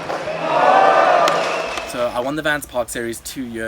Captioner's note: crowd cheering